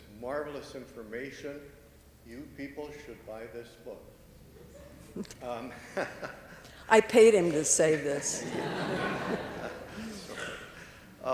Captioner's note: laughter